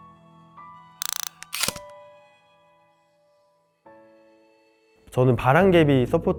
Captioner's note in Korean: 다이얼 소리